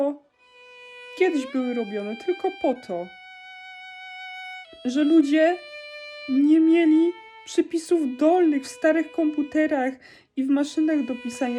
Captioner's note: crying in Polish